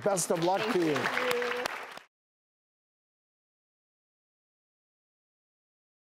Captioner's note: audience applauds